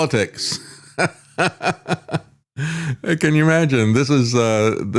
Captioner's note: laughs